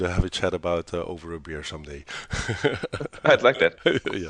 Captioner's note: laughs